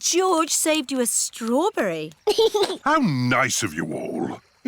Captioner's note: giggles